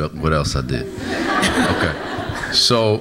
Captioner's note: audience laughs